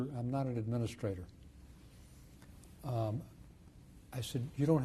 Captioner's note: pauses for 3 seconds